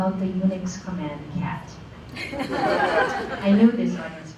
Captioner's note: laughter